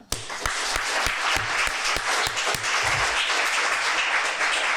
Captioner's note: audience clapping